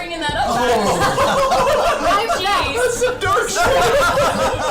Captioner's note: all laugh